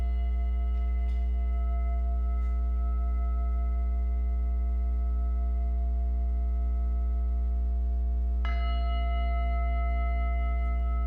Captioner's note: singing bowl rings